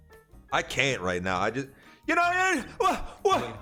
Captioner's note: stutters